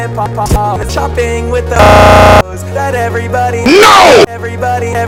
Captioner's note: stutter loop